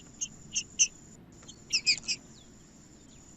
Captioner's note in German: trinca ferro cantando